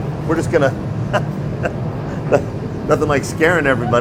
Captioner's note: chuckles